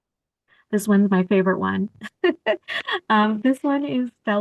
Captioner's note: laughter